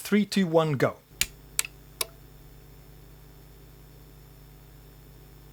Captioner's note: clicking